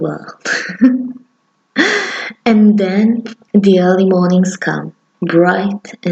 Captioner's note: laugh